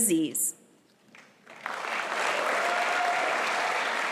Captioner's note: applause